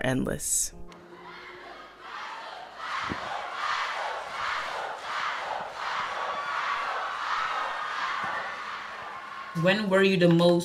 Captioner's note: crowd chanting “Fatou”